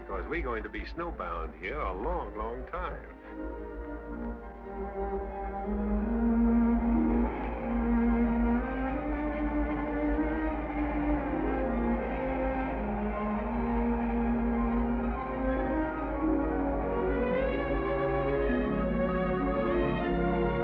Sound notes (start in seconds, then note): 4.0 gentle music; 4.0 wind whistles; 16.3 gentle, peaceful music